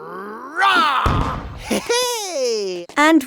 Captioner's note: Paul roaring; man laughing happily